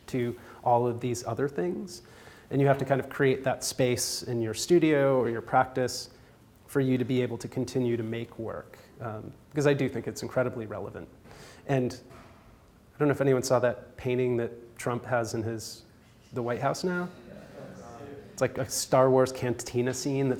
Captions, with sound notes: to all of these other things, and you have to kind of create that space in your studio or your practice for you to be able to continue to make work because I do think it's incredibly relevant. I don't know if anyone saw that painting that Trump has in the White House now. (audience murmurs) It's like a Star Wars cantina scene